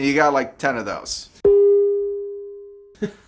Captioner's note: man chuckles